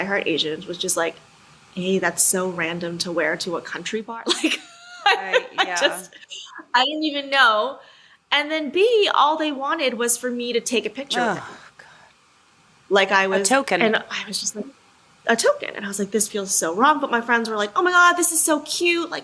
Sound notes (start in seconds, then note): 4.9 laughs